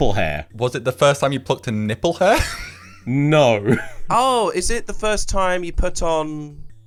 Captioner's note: laughs